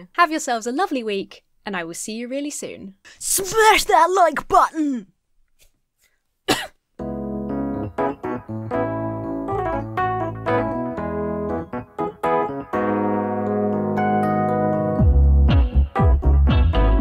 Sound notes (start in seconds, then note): 6.4 coughs; 7.0 upbeat downtempo music